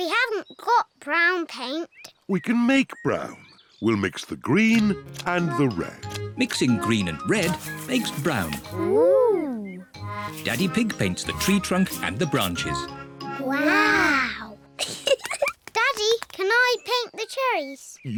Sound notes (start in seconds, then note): 14.8 both giggle